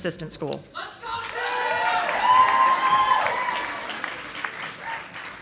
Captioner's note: audience applauding